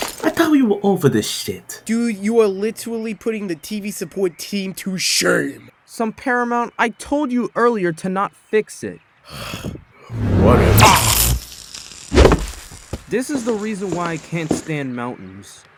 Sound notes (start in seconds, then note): 9.3 groan